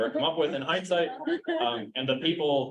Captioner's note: chuckling